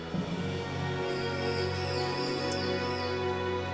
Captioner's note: animals screeching